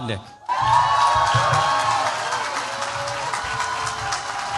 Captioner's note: cheers, applause